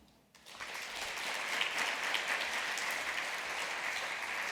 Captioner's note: applause